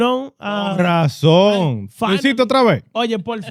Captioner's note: speaking In Foreign Language